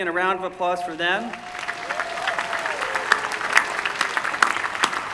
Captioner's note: applause